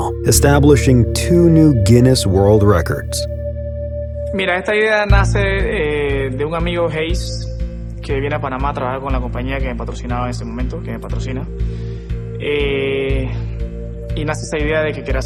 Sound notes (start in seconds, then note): 4.6 speaking Spanish